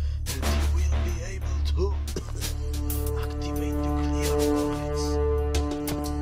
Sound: coughs

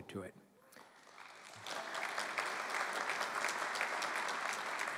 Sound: applause

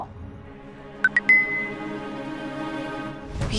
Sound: phone chimes

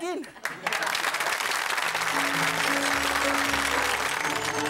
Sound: audience clapping

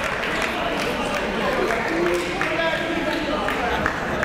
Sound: clapping; chatter

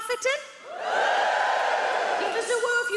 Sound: many people cheer

